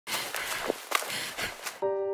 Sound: woman panting

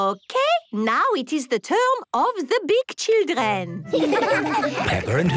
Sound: laughter

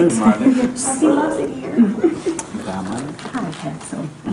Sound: laughing

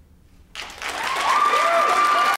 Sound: applause

